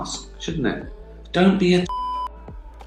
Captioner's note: beep